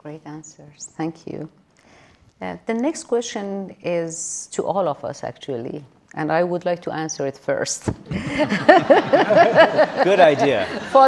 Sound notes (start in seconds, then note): 8.2 audience laughing